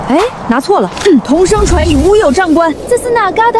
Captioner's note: foreign speech